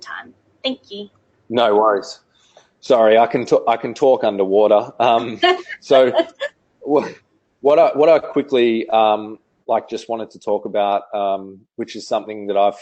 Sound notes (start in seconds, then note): 6.7 laughs